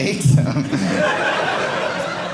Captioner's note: audience laughing